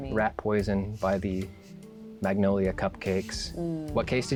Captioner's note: pat